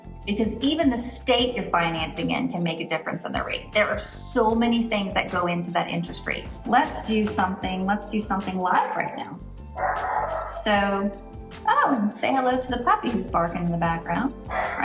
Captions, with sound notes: Because even the state you're financing in can make a difference on the rate. There are so many things that go into that interest rate. Let's do something live right now. (dog barking) Oh, and say hello to the puppy who's barking in the background.